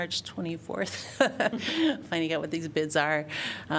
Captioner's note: laughter